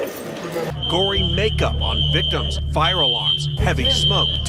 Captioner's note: walkie talkie sounds